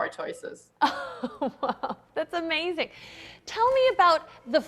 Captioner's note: laughs